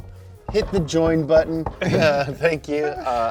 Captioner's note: table banging; chuckles